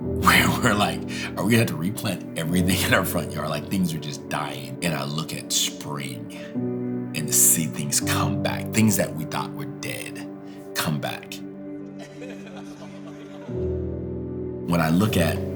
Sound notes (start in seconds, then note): 12.0 everyone laughing